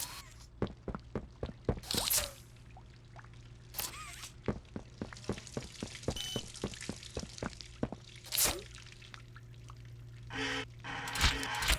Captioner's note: footsteps; water splashing; footsteps